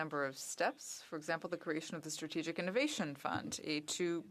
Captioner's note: speaking French